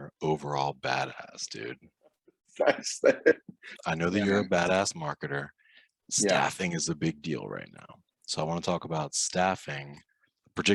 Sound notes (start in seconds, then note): 2.6 laughing